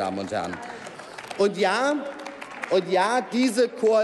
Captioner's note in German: Applaus